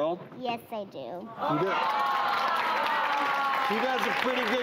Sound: audience applause

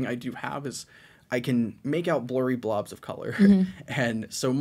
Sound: chuckles

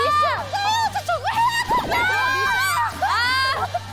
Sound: running

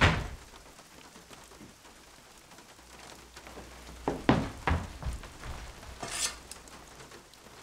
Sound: door clicking; rain pattering

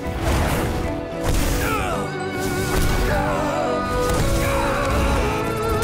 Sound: groaning

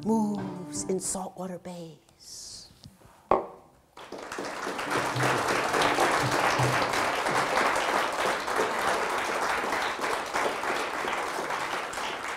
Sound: audience applause

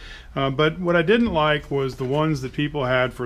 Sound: none

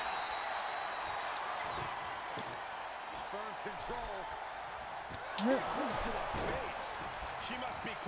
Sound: applause

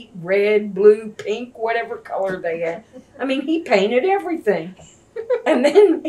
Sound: laughter

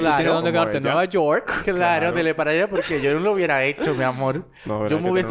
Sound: laughs

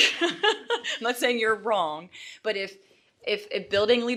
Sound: laughs

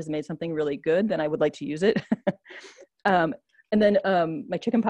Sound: laughs

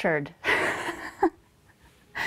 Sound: laughs

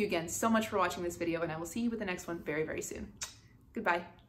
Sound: kisses

